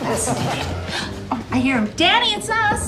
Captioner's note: laughter